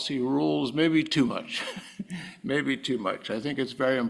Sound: laugh

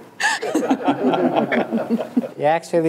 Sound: audience and panel laugh

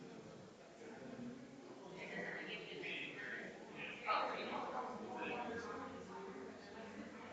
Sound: people chattering distantly continues

